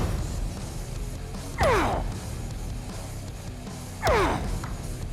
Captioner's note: grunting